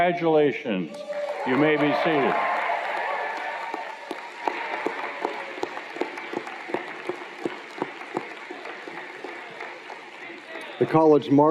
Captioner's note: cheers and Applause